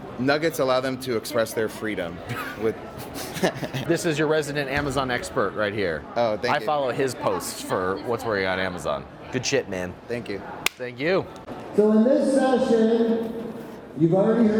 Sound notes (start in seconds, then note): 3.0 laughs